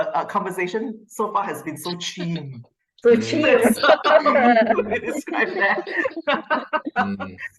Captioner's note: laughter